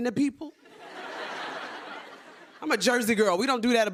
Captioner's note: laughter